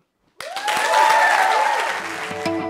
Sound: applause

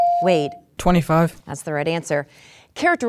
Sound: dinging

